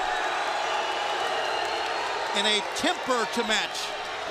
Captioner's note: crowd chatter